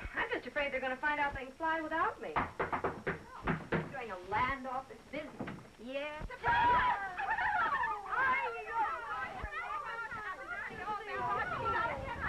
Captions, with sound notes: I bet you're afraid they're gonna find out they can fly without me. [knock on the door] During the land off it's busy. Yeah? - 'Surprise!' - 'Surprise!' [laughing] [indistinct chattering]